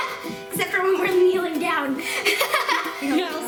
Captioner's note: laughs